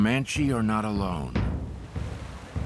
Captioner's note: water rushing